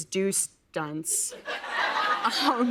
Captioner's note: laughter